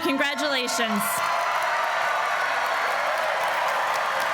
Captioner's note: applause